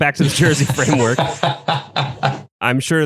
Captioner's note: laughs